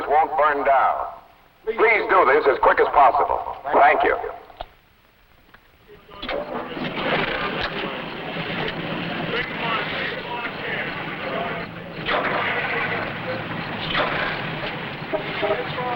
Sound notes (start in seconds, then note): 6.1 engines Starting